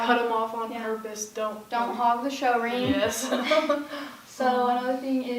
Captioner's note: laugh